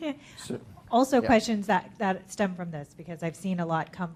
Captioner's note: laughs